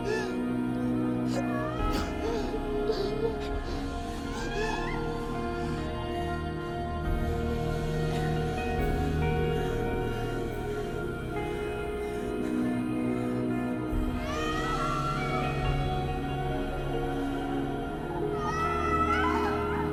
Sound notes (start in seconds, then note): 5.7 Mia gasping; 5.7 singer vocalizing